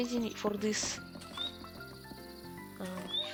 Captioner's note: random cat scurrying away